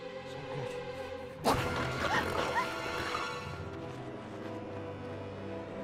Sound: screaming

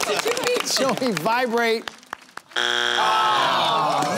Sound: buzzer

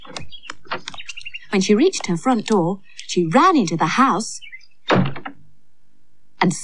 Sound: sound Of Door Slamming

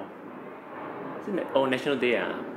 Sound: sniggers

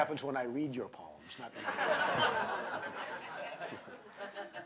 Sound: laughter

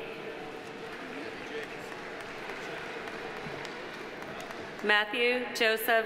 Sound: audience applauding

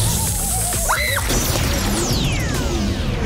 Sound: screaming, shattering; hissing

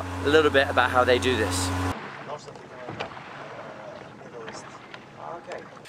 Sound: boat creeking noises

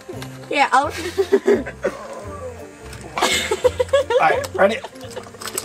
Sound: both laugh

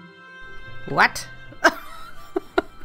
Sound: laughs

